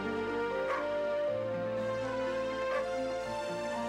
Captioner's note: Nero barking